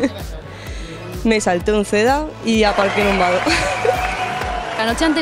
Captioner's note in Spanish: risas